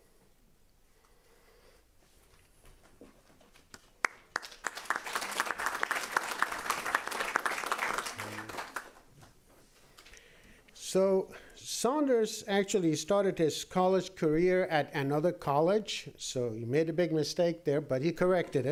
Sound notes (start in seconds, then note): 4.0 applause